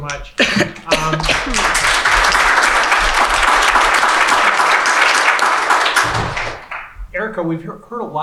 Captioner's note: applause